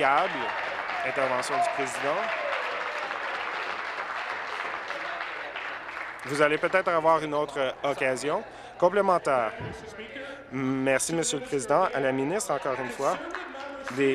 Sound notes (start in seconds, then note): 4.1 applause